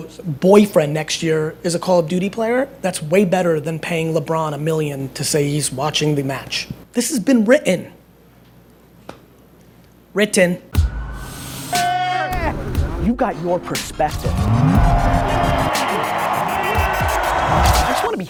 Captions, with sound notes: Boyfriend next year is a Call of Duty player that's way better than paying LeBron a million to say he's watching the match. This has been written. Written. - [Voiceover] You got your perspective. (cheering)